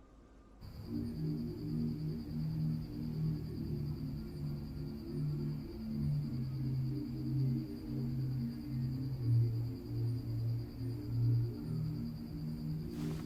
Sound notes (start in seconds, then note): 0.8 insects chirping; 2.8 mellow music plays